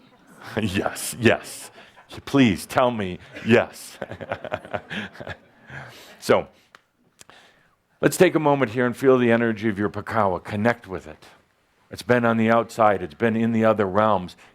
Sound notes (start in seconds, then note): 3.1 Adamus chuckles